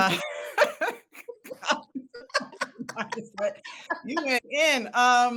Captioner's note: participants laugh